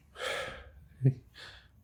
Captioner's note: exhales deeply